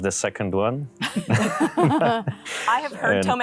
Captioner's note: all laugh